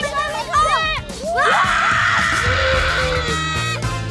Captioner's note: all whoop